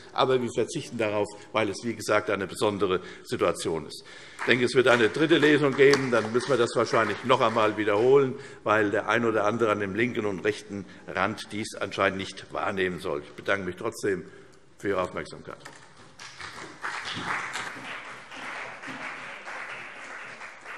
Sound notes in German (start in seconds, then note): 4.3 Vereinzelter Beifall CDU; 16.1 Beifall CDU und vereinzelt BÜNDNIS 90/DIE GRÜNEN